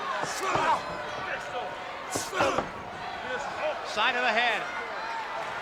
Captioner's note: wrestlers grunting